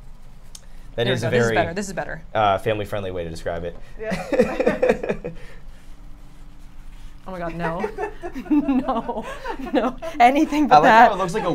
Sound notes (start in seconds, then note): 4.1 laughs; 9.4 laughs